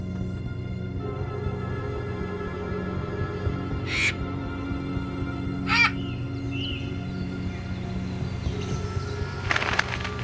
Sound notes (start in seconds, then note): 5.6 bird caws